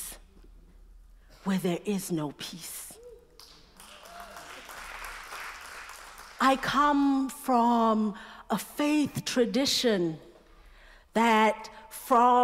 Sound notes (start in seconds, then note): 3.3 applause